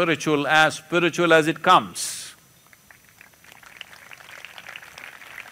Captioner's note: applause